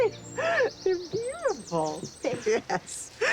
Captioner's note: laughing